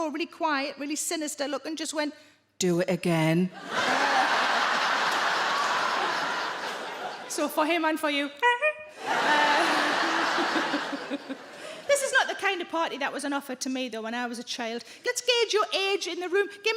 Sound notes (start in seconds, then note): 3.6 audience laughing; 8.5 Sarah imitates horn honking; 9.0 audience laughing